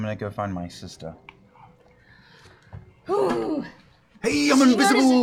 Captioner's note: groans